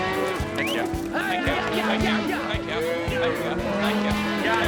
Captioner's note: all calling to cows; all calling, whistling, shouting